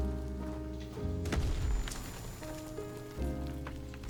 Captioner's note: gentle music; gunshots